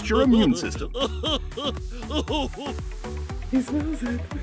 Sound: cartoon heart chuckling

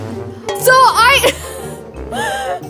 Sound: laughs

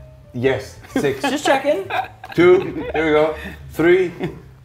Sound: laugh

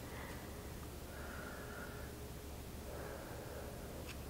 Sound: breathing heavily

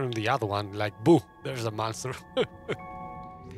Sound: laughs

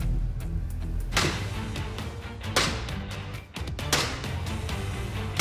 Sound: blade chopping

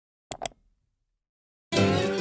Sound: click; bright music

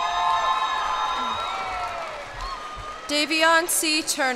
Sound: cheers and applause

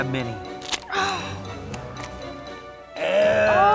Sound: grunting

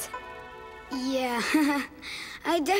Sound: laughing

